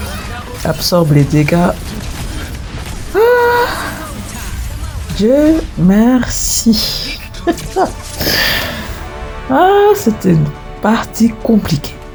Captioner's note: laughs